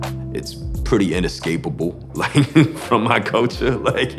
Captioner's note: laughs